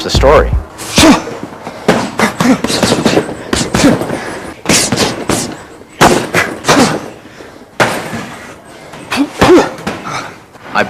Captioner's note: panting